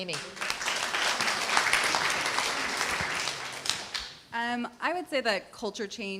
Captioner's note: applause